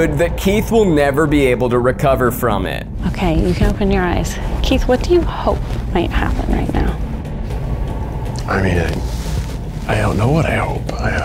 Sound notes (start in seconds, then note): none